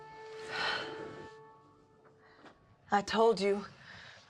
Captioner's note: Eleanor sighs